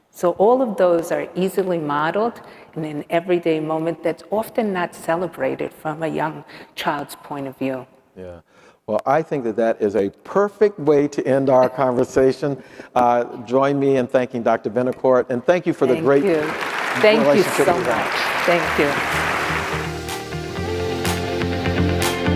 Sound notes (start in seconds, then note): 15.8 audience applauding; 19.5 upbeat music